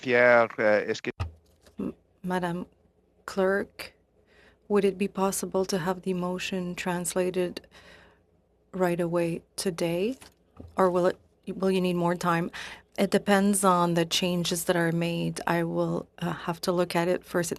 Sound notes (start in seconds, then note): 6.1 speaking French